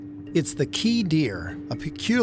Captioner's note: none